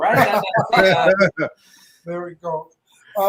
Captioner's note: laughter